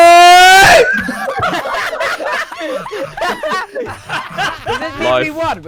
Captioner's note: laughs